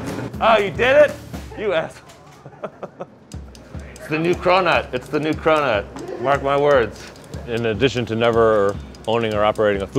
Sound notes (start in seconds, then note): 1.5 laughing